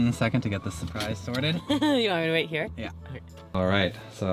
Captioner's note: chuckles